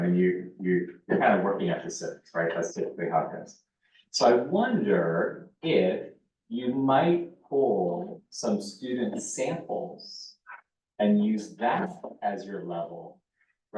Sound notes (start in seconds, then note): 3.1 muffled voice